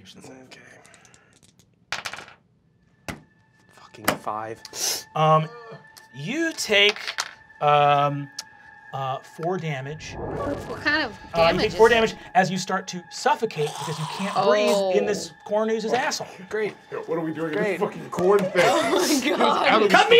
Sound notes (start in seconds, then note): 0.8 dice clacking; 6.7 dice clacking